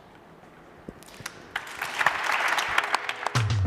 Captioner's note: applause